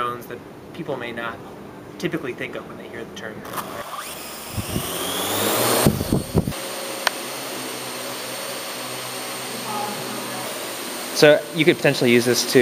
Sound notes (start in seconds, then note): 3.5 buzzing